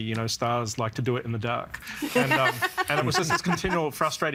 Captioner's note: laughing